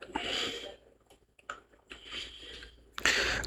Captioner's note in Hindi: नाक से की जाने वाली आवाज़